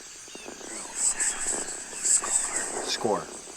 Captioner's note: ghost Voices Whispering Recording Plays